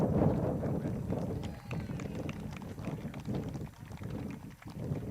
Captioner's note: crowd claps